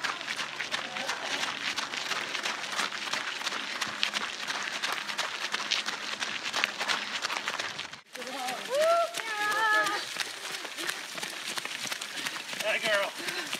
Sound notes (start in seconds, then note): 0.1 footsteps crunching on gravel; 9.1 breathless panting as the person runs